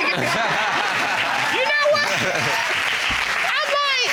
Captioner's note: audience applauding